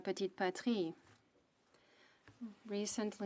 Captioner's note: speaking French